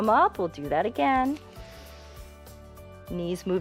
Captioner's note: inhales